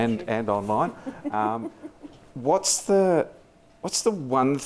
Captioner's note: laughs